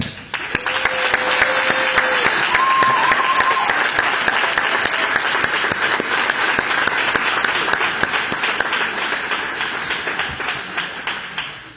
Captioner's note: applause